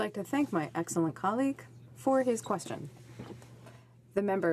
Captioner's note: speaking French